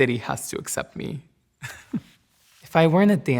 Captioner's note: laughs